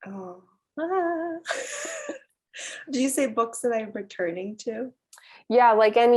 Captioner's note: laugh